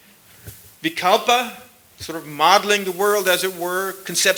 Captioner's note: sanskrit